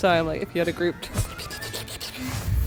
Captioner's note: slurp noises